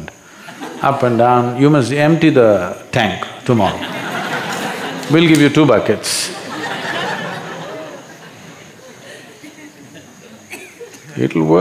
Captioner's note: laughter; 笑聲